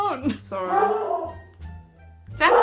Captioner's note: more barking